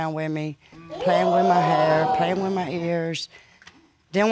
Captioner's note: audience exclaiming